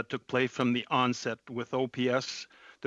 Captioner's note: speaking French